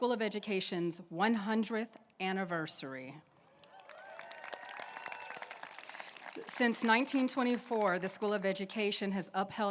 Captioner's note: applause